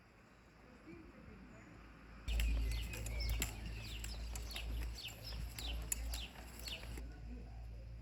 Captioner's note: birds chirping